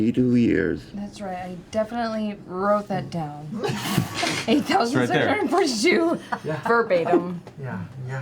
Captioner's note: laughs